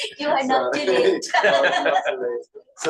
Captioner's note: laughter